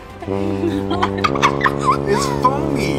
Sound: horn blows

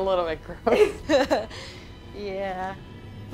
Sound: women laughing

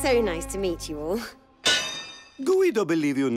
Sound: clang

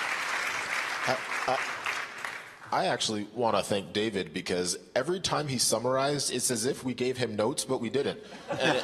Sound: applause

